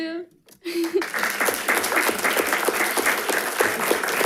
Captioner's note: all clapping